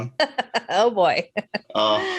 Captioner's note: laughs